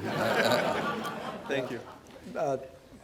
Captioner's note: laughter